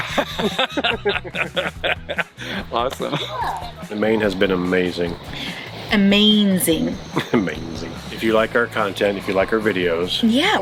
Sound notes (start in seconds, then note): 0.0 laughs; 7.1 chuckles